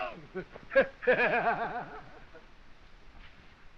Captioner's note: laughing